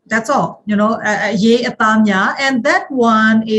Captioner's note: speaking foreign language